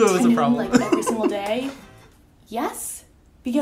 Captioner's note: laughing